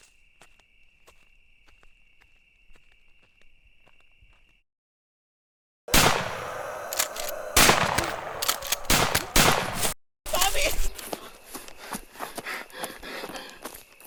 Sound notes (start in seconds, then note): 5.9 gunshots